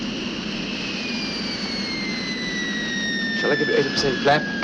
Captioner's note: plane whirring